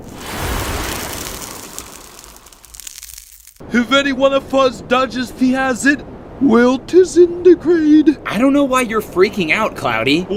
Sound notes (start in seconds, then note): 0.0 sound of acid stopping; 3.7 thick accent; 10.1 thick accent